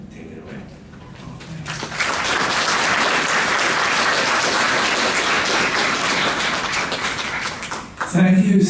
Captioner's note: applause